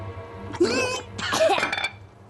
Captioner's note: choke